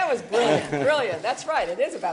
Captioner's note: laughter